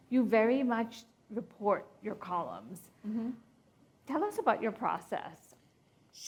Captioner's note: none